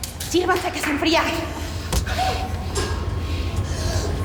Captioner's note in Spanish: Golpes; Gritos y exclamaciones